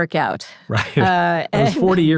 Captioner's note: laughs